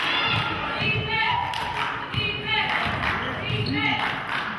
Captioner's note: clapping